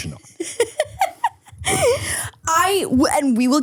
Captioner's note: person laughing